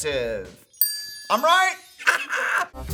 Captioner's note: bell dings; Adam laughs